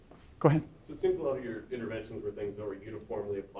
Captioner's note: voiceover